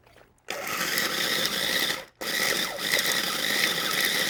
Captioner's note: machine whirs